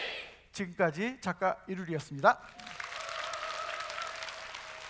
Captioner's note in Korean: 박수와 환호